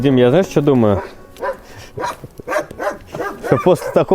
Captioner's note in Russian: лай собаки